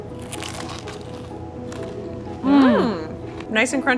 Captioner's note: samosas crunching